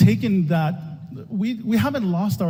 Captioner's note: none